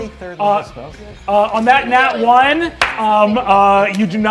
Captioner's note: claps